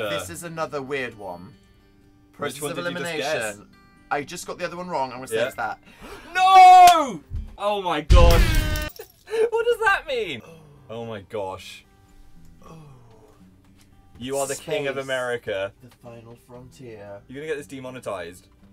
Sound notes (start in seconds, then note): 9.0 giggling